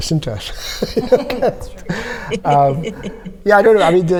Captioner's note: all laughing